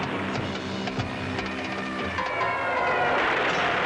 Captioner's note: airplane engines whirring; airplanes screaming; explosion blasts